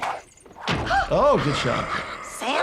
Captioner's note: hat whooshes and thuds; laughs; Virginia gasping